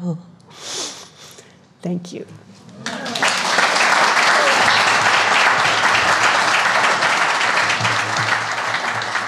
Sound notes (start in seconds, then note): 2.8 applause